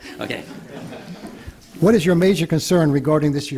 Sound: laughter

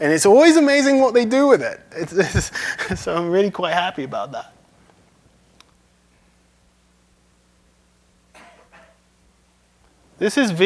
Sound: laughs

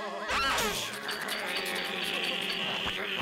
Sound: laughing; growling; laughing

